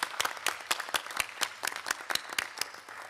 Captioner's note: applause